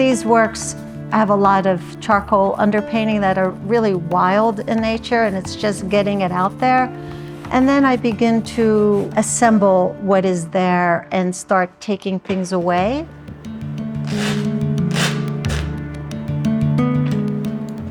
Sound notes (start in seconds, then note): 14.8 shirt ripping